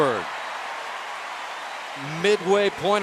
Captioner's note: cheering